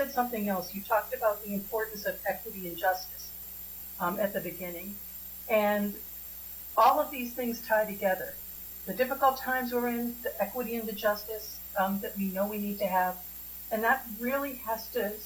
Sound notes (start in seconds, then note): 7.6 spanish